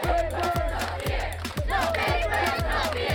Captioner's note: crowd